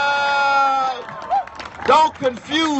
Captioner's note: cheers